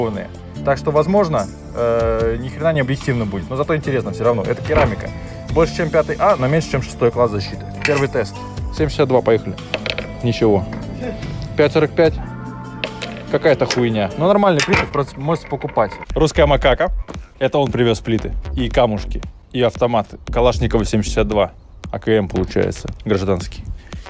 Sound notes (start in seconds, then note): 10.8 laughing